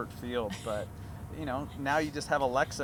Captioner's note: laughs